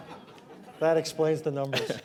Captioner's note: laughter